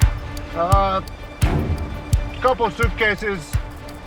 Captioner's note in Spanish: none